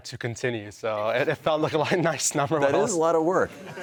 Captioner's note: chuckling